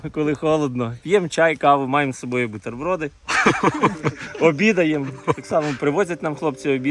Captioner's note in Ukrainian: сміх